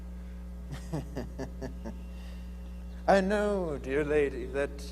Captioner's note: laughing